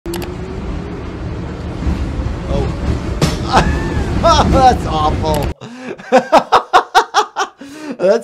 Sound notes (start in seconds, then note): 3.2 board thuds; 3.4 laughs